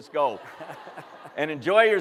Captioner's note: laughter